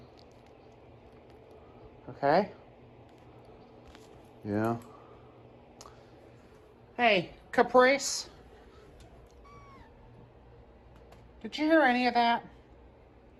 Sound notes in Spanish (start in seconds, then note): 9.2 maúlla